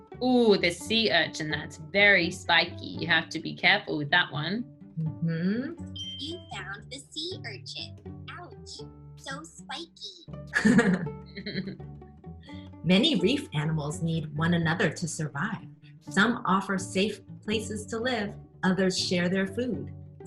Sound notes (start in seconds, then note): 11.3 women giggling